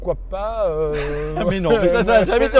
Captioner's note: laughter